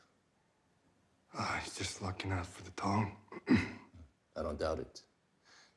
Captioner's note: coughs